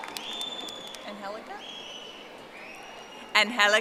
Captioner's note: audience applauding